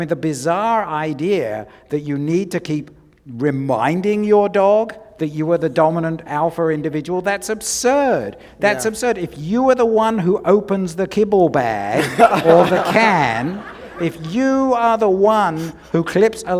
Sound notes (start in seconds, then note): 11.9 laughter